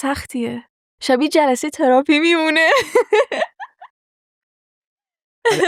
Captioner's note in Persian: خنده